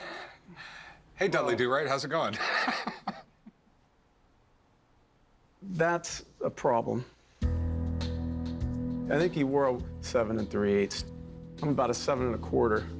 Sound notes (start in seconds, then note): 2.3 laughs